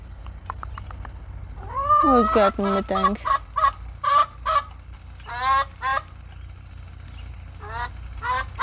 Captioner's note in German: lautes Gackern